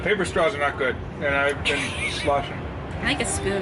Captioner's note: laughs